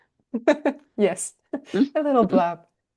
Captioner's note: chuckles